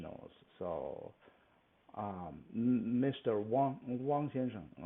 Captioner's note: speaks Mandarin